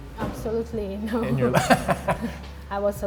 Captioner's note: laughs